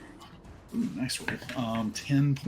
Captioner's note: dice rolls